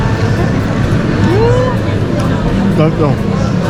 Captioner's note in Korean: 자동 돌고래 소리